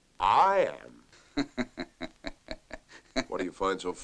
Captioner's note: laughing